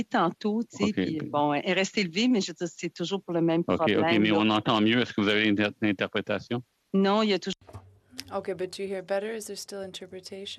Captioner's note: speaking French